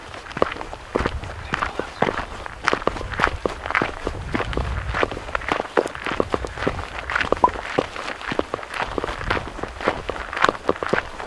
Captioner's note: crunchy footsteps on gravel